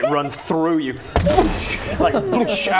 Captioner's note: boosh